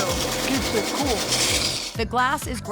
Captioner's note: grinding sound